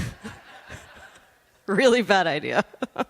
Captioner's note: laughter